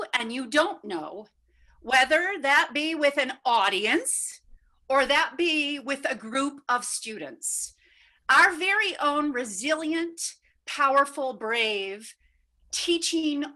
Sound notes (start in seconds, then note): none